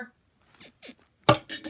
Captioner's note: bed squeaks